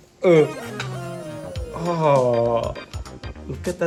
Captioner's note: moans in regret